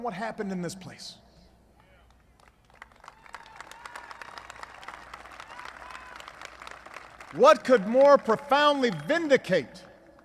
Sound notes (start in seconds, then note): 4.3 applause